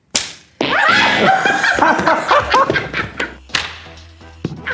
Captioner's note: laughing